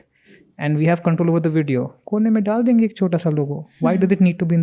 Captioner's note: speaks in Hindi